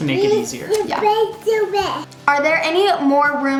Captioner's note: babbling